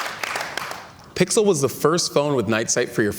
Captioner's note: cheers and Applause